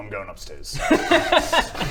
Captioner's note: laughs